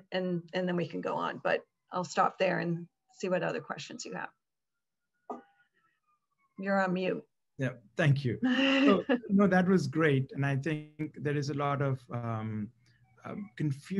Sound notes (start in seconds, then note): 8.5 laugh